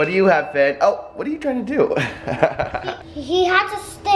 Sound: laughs

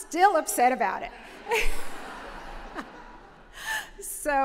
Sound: laughter

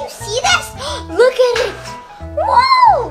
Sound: gasp

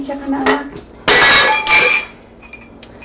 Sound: vase breaks

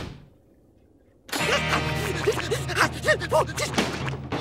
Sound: panting

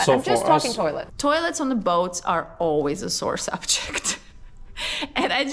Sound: chuckling

